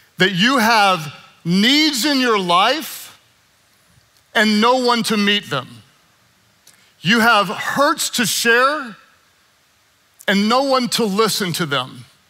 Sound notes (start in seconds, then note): none